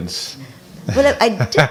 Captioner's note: laughing